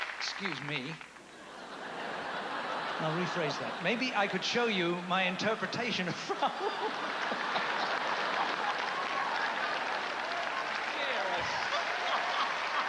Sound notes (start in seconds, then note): 0.0 applause; 7.5 laughter and applause